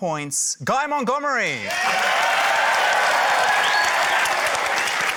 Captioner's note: cheering, applause